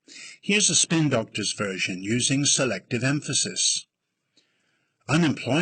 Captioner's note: using selective emphasis